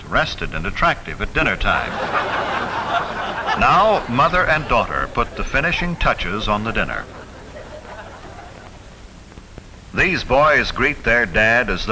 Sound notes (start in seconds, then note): 2.4 audience laughs; 7.7 audience chuckling